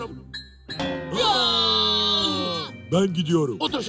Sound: scream

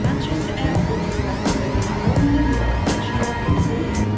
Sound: bright music; airport intercom

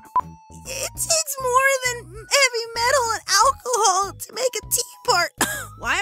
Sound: crying yet slightly scratchy; cough

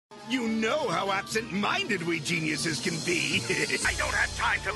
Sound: laugh

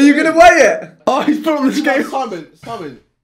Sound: all laughing

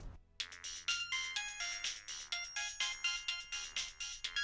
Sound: phone ringing

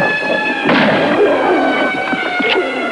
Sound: gunshot; gun clicking

